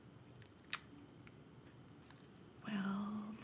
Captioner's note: Tania clicks tongue